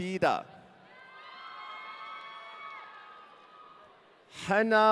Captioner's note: audience cheering